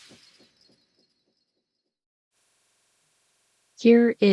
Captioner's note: sound effect